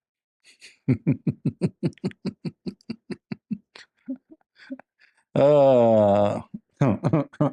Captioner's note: Ketawa